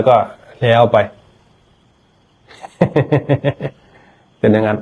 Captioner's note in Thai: เสียงหัวเราะ